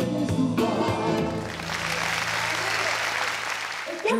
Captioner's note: applause